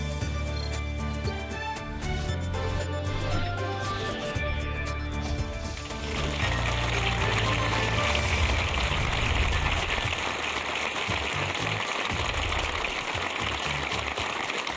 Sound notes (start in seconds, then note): 5.8 applause